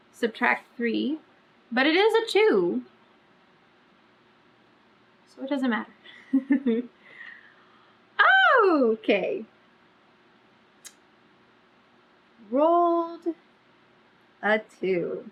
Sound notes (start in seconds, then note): 6.2 laughs